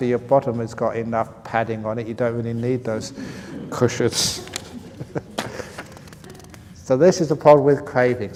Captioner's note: laughs